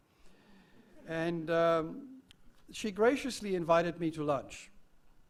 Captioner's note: laugh